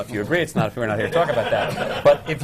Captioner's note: laughter